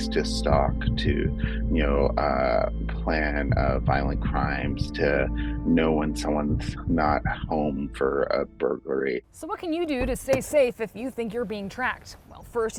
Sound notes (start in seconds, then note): none